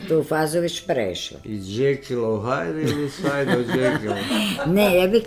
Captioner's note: laughter